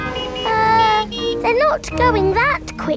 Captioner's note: horns honking